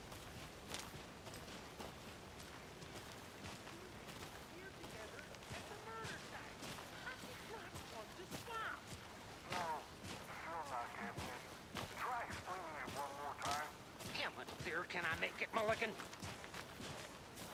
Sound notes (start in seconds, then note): 0.0 birds chirping; 2.6 man on radio